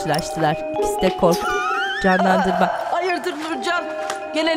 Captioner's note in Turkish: Gülme sesi